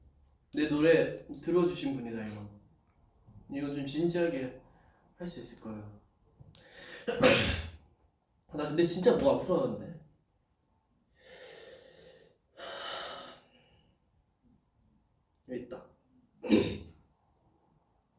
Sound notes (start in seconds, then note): 7.0 cough; 11.1 breathes in and out